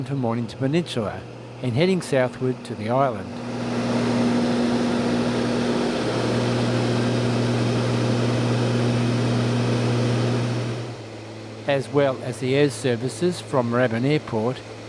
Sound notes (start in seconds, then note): 3.5 aircraft sounds